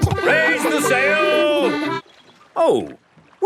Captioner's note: kids laughing